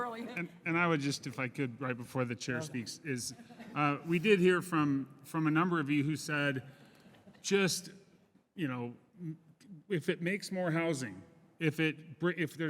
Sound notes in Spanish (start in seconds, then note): 6.9 Risas